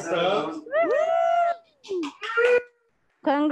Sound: cheering

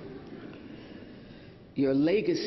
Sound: laughter

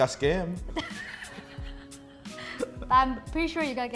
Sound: laughing

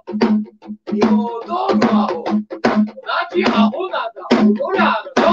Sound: chants in Japanese

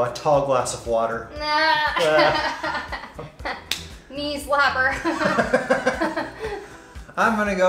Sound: laughter; laughs

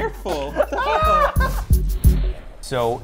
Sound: exclaims; pop music

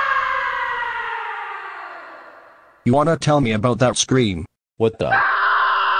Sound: scream

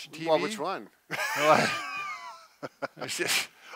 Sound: laughing

